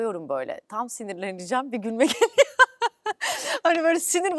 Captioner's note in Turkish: kahkaha